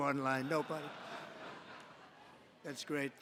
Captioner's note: laughter